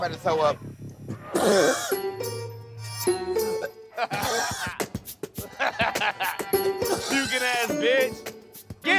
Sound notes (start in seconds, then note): 1.4 retching; 3.9 laughs